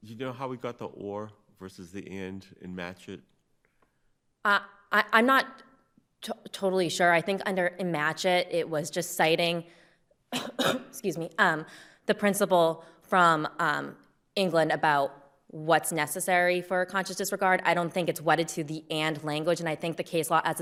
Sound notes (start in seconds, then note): 10.3 coughs